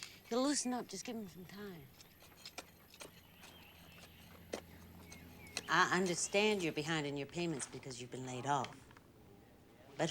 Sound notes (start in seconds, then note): none